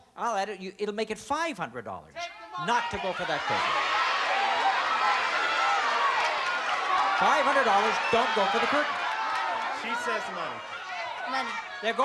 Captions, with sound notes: I'll add it-- it'll make it $500 not to go for that curtain. [shouting] $500, don't go for the curtain. - She says the money. - Money.